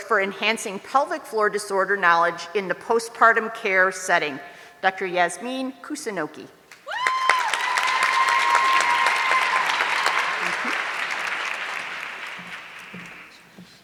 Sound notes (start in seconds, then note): 6.8 audience cheering